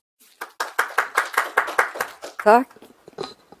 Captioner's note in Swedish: Applåder